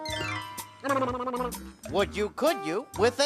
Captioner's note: sputtering